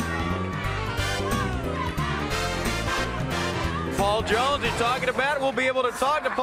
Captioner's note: crowd cheering